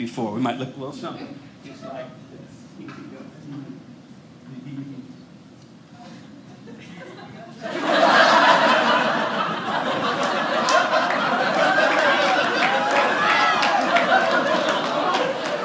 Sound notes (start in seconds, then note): 3.2 audience laughing